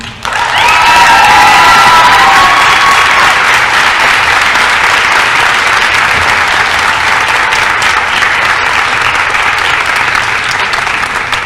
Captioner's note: applause & cheering